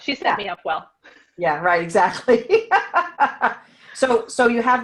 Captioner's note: laughs